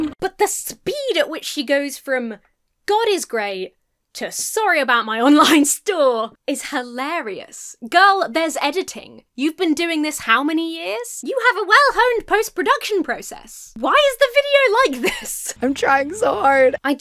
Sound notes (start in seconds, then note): 14.8 laughs